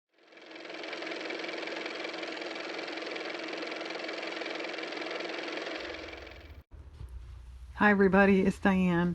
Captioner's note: car motor